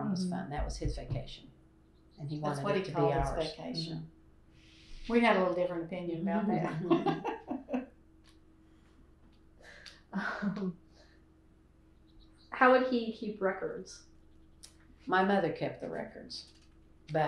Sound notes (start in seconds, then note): 9.8 laughter